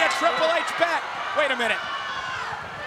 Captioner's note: audience cheers